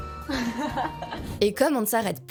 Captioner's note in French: elle rigole